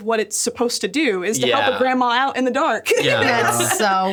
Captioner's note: laughs